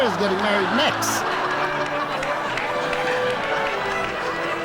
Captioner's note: audience laughs